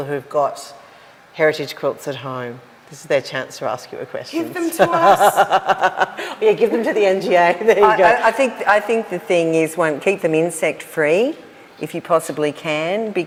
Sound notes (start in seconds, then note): 4.4 laughs